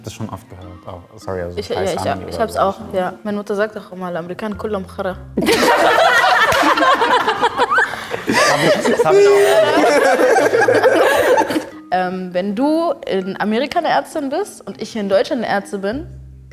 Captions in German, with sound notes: Hab das schon oft gehört, auch. Meine Mutter sagt noch immer, (spricht Arabisch) Wenn du in Amerika eine Ärztin bist, und ich in Deutschland Ärztin bin,